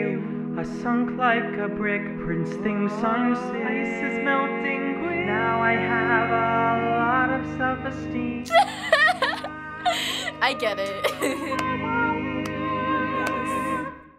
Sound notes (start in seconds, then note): 8.8 cracking up